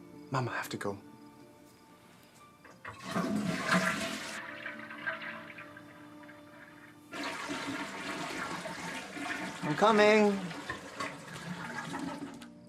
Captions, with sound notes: - Mama, I have to go. (toilet flushing) I'm coming!